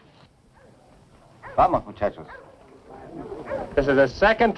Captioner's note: speaking spanish